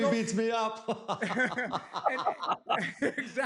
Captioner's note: laughter